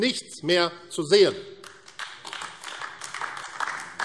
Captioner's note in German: Beifall AfD